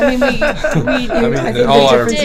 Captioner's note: laughing